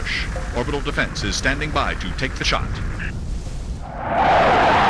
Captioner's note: radio